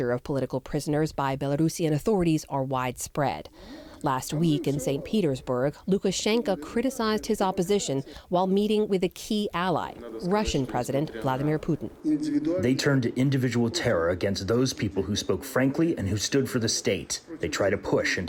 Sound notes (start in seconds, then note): 12.7 through translator